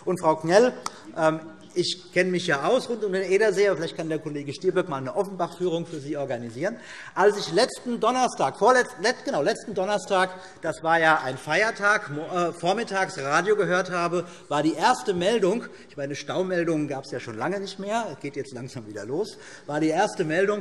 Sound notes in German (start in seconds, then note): none